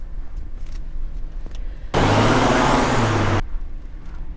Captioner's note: car engine revving